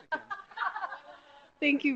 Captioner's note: laughter